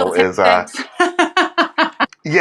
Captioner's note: laugh